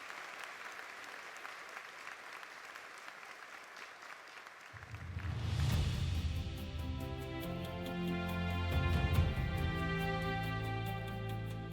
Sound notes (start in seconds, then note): 3.2 applause continues; 5.6 dramatic music